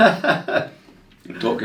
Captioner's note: laughs